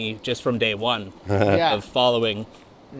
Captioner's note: softly chuckles